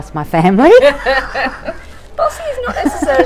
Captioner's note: laughing